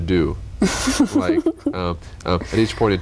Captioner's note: laughter